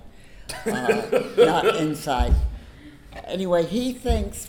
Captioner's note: laughs